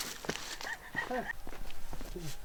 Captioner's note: laughter of the photographer